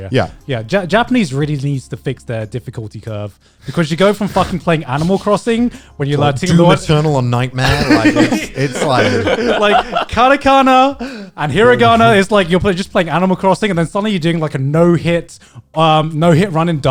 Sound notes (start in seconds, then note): 7.6 guys laughing